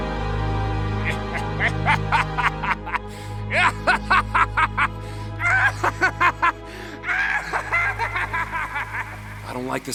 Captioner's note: Gaylord_Steambath laughs evilly